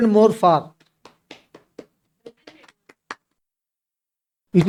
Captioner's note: claps